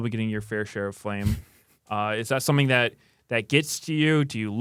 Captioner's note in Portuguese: risos